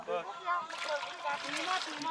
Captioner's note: chattering